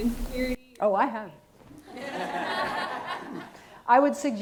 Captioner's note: audience laughs